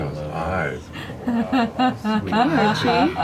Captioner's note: laughs